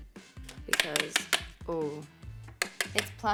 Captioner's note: bowl tapping